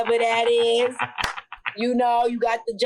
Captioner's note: laughs